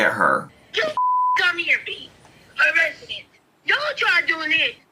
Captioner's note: beep